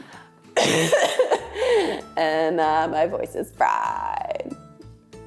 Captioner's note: coughs